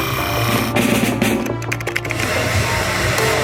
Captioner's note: therapy gun noises; keyboard clicking; drumming noises; hairdryer blowing air